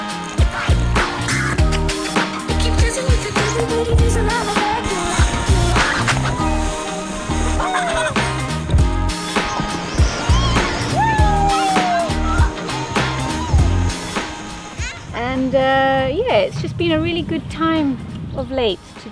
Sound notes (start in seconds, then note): 10.0 people screaming